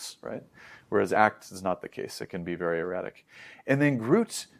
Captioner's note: inhales